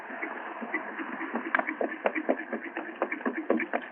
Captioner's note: horse trotting